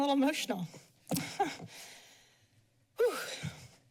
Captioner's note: chuckles